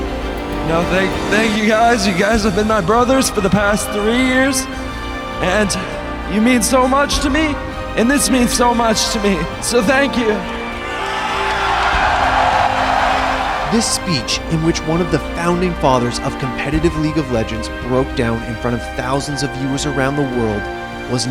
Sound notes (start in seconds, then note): 10.5 crowd cheering